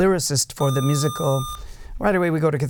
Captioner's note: buzzer